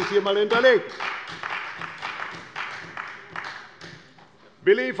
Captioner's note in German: Beifall bei der CDU